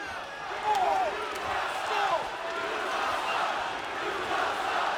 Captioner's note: audience chanting